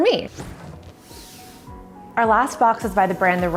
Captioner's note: sliding